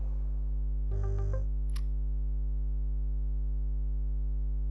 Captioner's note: buzzing; funky music; clicking